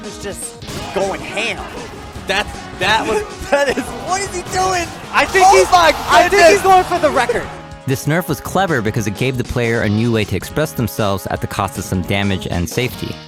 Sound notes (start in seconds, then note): 2.9 laughs; 5.4 audience cheers